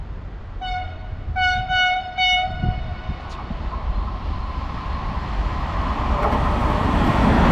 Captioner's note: freight train